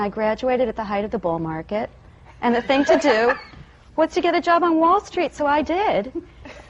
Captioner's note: laughter